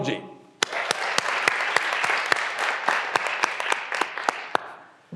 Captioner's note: graduands applauding